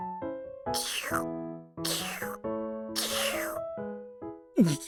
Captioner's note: slurp